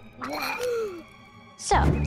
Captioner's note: gagging, gasps